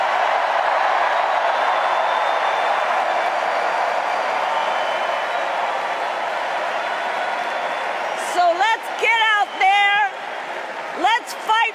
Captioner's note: cheers and applause